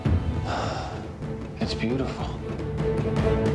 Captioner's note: sighs